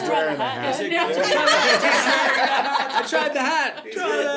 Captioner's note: laughs; laughing